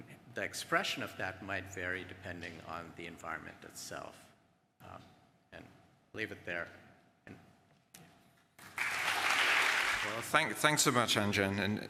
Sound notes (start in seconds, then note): 8.6 applause